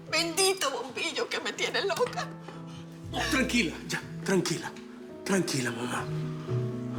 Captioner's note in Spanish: Chisporreteo